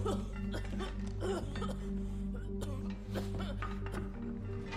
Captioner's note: coughing